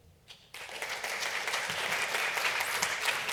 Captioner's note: applause